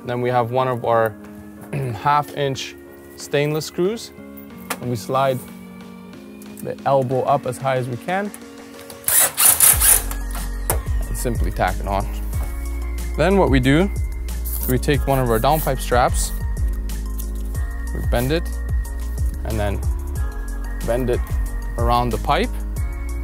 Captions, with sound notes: then we have one our half inch stainless screws, and we slide the elbow up atshigh as we can. (drill revs) Simply tack it on. Then what we do, we take one of our downpipe straps, we bend it and then bend it around the pipe